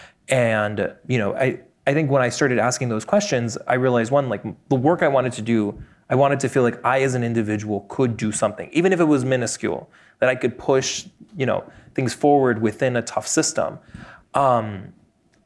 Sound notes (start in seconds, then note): none